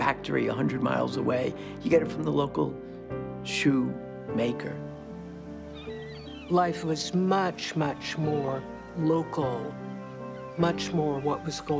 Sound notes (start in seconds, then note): 4.9 birds squawking